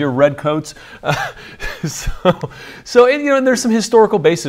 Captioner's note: laughs